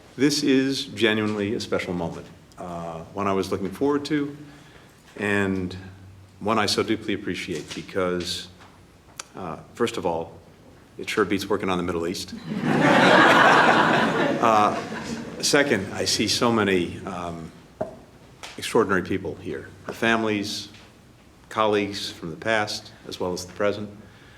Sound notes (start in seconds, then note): 12.3 laughter